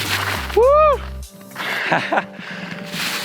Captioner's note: narrator sighing; narrator laughing